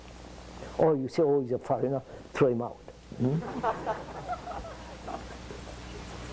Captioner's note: laughter